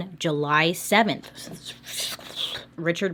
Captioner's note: frustrated breathing